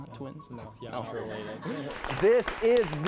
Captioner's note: everyone chuckling